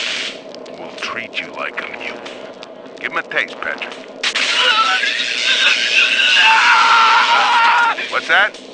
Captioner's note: timmy screams from electrocution